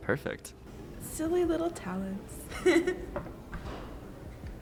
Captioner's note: laughter